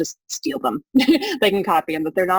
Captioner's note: laughs